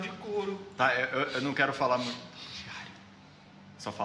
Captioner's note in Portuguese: sussurrando